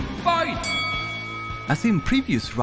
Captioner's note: bell dings